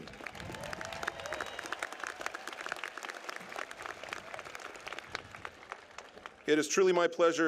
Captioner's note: applause